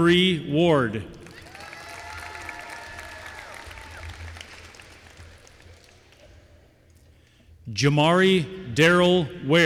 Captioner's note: applause